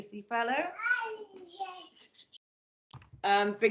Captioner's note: sounds of small child in the background